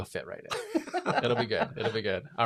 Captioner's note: laughs